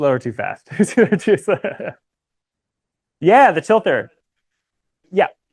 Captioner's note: laughter